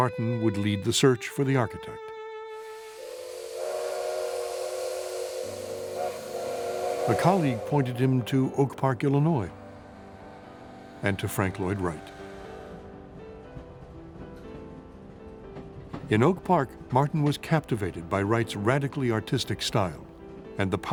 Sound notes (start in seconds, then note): 3.2 train whistle blows; 12.5 gentle music